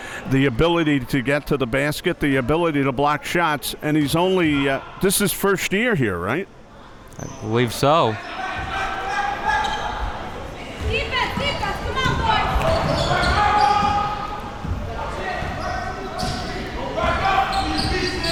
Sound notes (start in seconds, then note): 14.2 people yelling